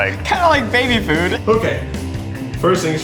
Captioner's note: laughing